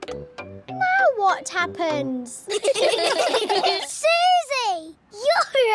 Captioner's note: all giggling